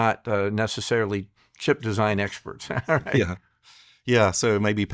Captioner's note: chuckles